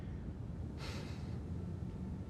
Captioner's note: exhales